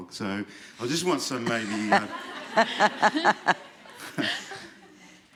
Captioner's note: laughter